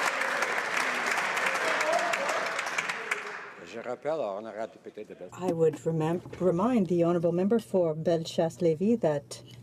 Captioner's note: some Applause